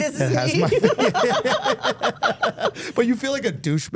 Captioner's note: everyone laughing